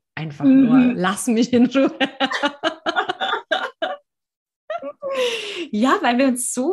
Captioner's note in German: lachen